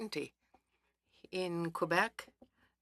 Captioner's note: speaking French